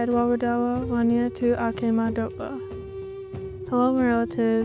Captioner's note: speaking in Dakota language